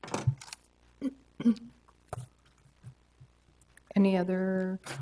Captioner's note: clears throat